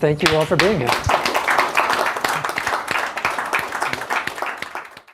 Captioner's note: applause